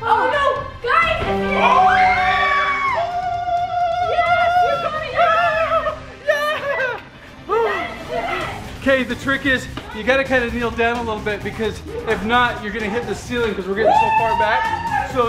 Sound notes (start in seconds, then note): 1.0 victory music; 1.7 screaming